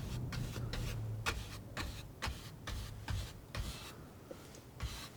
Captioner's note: scratching